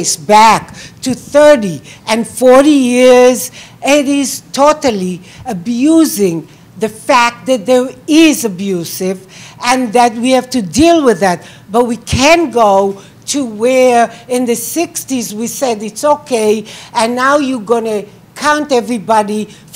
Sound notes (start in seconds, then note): none